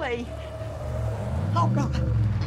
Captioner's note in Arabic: اصرير الاطارات